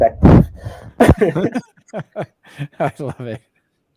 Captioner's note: both laughing